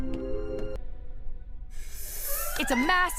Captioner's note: hisses nervously